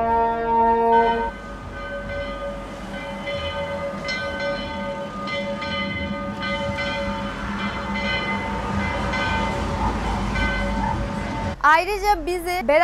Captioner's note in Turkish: kilise çanı sesi